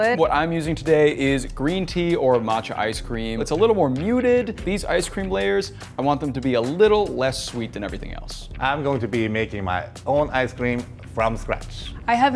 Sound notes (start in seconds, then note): none